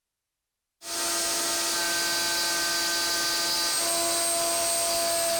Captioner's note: saw buzzing